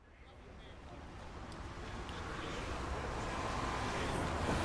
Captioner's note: background chattering